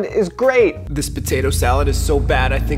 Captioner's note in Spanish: voz en off